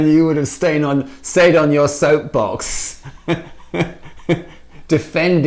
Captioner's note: laughing